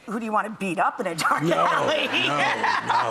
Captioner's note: laughs